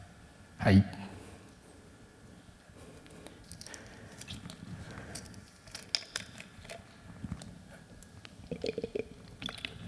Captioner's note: silence